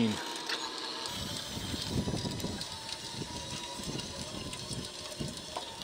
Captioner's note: machine engine rumbling